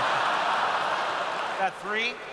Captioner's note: laughter